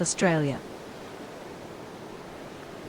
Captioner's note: waves